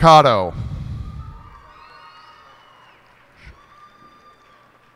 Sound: cheers and applause

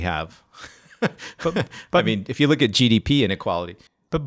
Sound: laughs

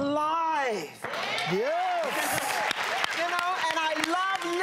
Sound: cheering

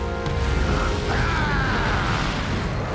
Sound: screaming

